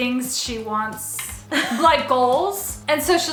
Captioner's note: chuckles